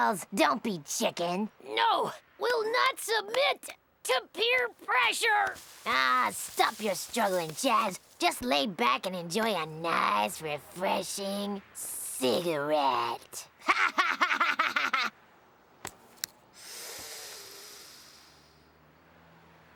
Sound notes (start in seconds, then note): 13.6 fiendish laughter; 16.5 taking long drag